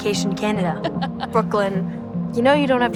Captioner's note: laughs